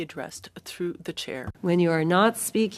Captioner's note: speaking French